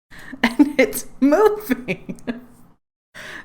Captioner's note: laughs